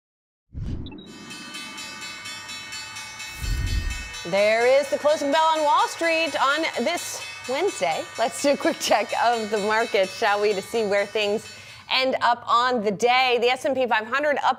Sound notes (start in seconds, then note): 5.2 bell